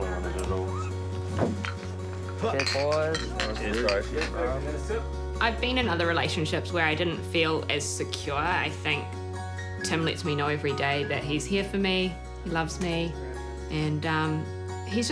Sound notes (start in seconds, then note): 1.2 bottles clink